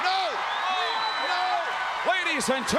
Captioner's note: crowd cheering